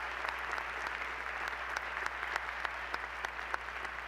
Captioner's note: applause